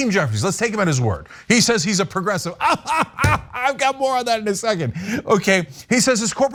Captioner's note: laugh